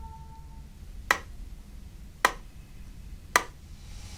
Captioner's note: pen tapping